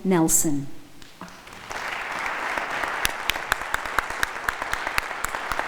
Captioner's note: audience applauding